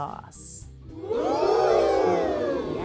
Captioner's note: crowd ooohs